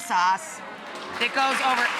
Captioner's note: audience cheering